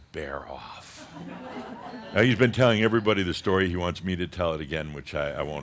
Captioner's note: some chuckles